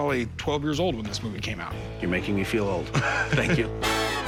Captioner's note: Corey laughs